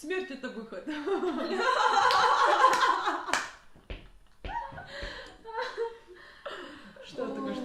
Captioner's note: extra feminine laughter